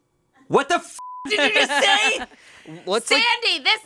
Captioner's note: beep